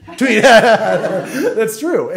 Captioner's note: audience laughs